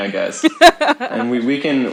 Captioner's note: laughs